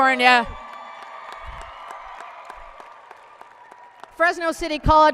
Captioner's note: applause and cheering